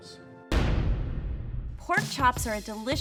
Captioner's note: banging